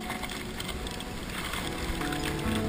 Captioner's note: ice axes and crampons scrape